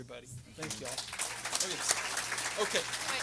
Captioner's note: everyone applauding